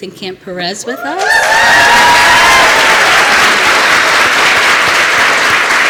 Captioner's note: applause